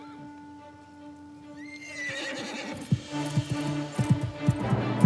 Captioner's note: horse neighing; dramatic music